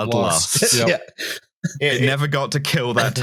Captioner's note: laughs